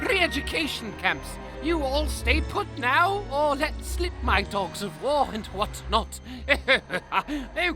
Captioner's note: chuckles